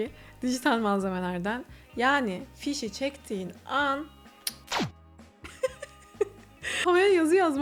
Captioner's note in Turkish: kahkaha